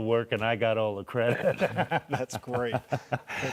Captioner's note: laughing